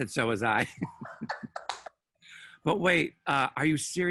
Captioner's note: both laugh